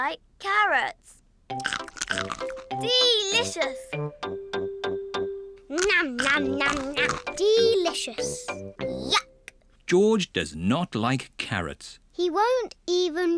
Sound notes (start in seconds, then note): 1.6 crunches; 5.7 crunches